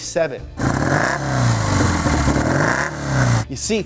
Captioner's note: engine revving